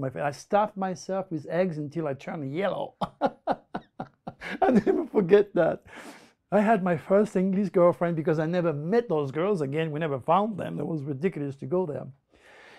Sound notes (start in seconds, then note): 3.0 lacht